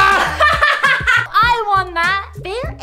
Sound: Ginger laughs

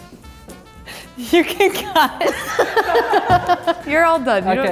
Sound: laughs

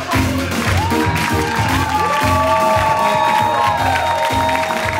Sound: audience applauds and cheers

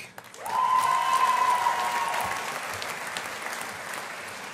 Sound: audience applauding

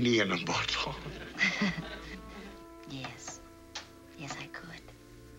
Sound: laughter

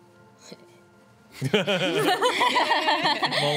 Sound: laughs

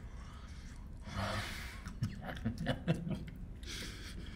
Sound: Otis laughing

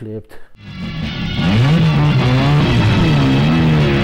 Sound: engine sound

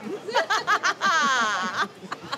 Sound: triumphant laughing

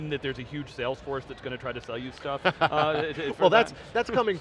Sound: laughs

